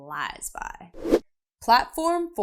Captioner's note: air whooshing